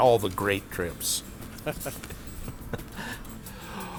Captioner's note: laughs